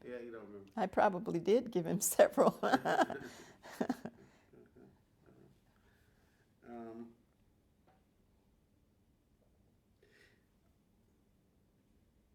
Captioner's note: laughter